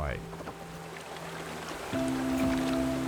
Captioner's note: water splashing